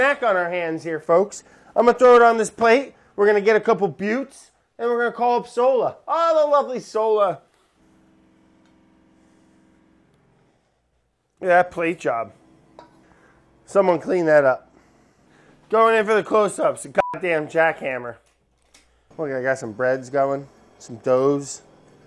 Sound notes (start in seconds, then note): 7.8 jackhammer whirring; 16.9 beeping